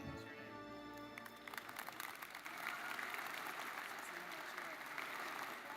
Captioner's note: audience applauds